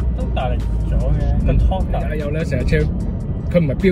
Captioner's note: engine sound